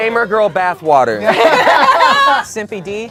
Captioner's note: group laughs